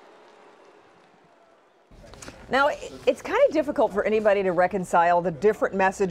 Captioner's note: crowd booing